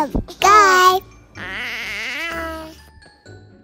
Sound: baby voice

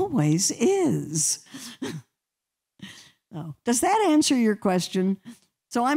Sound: laughter

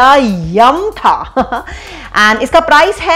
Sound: giggles

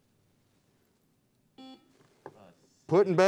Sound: buzzer beeps

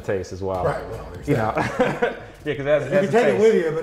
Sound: laughs

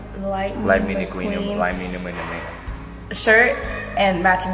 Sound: talks gibberish

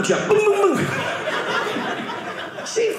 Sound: audience laughing

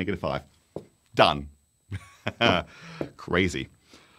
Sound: laughing

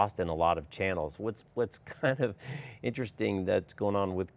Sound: chuckles

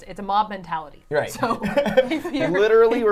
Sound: all laughing

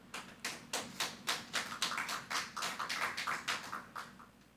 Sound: audience applauding

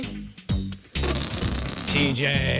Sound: farting noise

